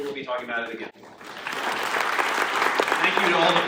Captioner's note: audience applauding